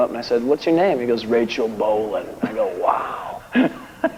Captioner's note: deep voice